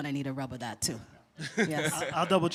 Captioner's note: chuckle